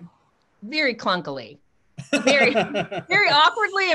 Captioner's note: laughs